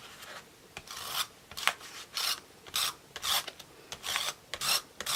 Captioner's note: tool scratching